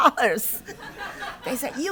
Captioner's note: laughter